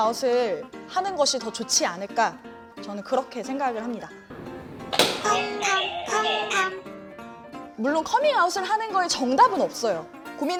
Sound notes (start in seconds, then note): 4.3 tap!